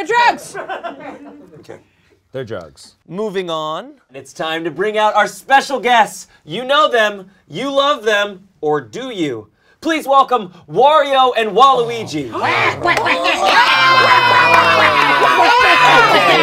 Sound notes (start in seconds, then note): 0.5 audience laughs; 11.7 Mario and Bowser groan; 12.3 cheering and shouting